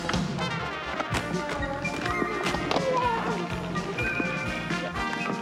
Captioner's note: whistle